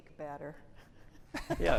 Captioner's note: laughter